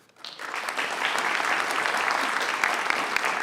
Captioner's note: applause